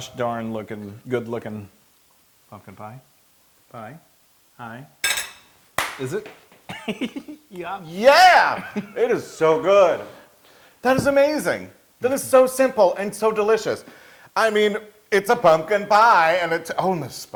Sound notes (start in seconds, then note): 6.7 laugh